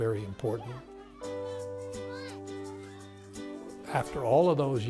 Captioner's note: children playing